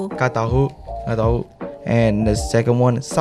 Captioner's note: Taiwanese